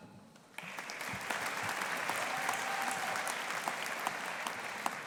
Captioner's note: audience applauding